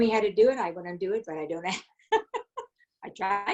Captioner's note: giggles